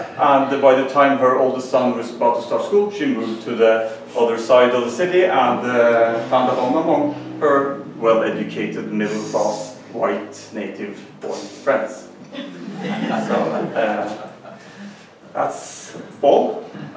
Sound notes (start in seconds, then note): 12.3 laughter